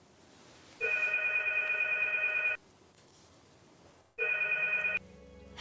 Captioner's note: phone rings